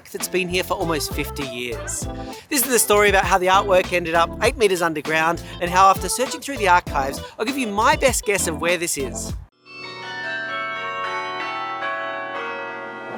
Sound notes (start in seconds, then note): 9.6 bells ringing